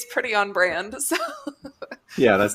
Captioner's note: laughs